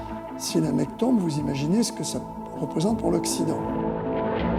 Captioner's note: speaking in French